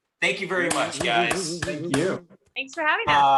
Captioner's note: claps